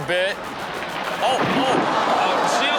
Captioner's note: audience gasps